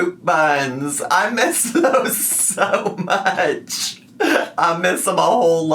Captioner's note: laughs